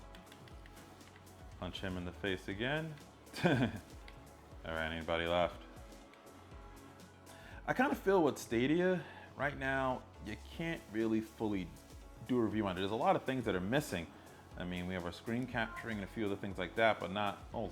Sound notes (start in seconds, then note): 3.3 laughs